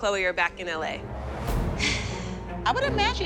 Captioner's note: sighs